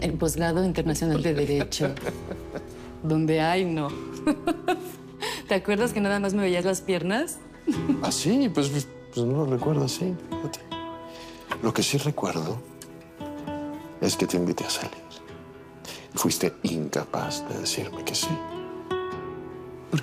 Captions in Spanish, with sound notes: el posgrado internacional de Derecho, donde... Ay, no... [Risas] ¿Te acuerdas que nada más me veías las piernas? - ¿Ah, sí? Pues, yo no lo recuerdo así, fíjate. Lo que sí recuerdo es que te invité a salir y fuiste incapaz de decirme que sí.